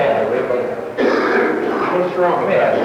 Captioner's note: coughing